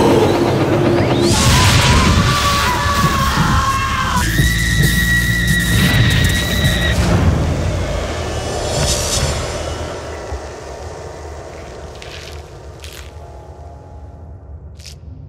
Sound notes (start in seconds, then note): 1.2 distant male screaming; 4.3 female screaming